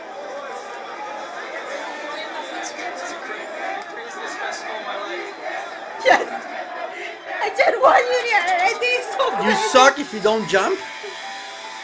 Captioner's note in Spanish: Aplausos